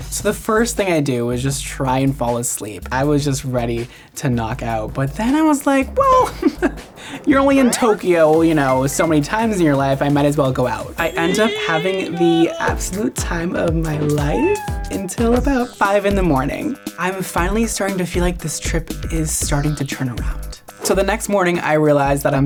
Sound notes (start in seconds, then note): 6.6 laughing; 10.9 opera singing; 14.3 cat meows